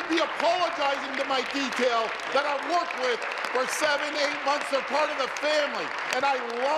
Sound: applause

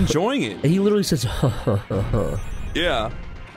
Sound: evil laugh

